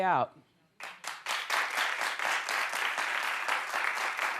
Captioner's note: audience applauds